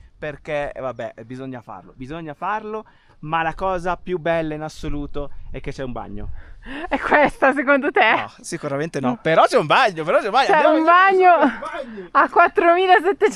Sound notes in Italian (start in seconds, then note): 11.1 risate